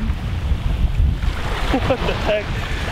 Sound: laughing

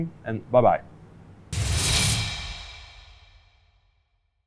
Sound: electricity crackles

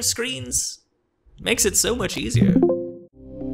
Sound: screen share sound

